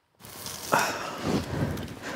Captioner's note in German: Stöhnen